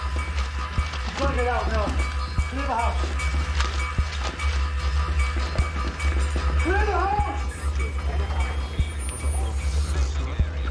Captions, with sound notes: We've got to get out now. Clear the house. Clear the house! (man announcing over speakers)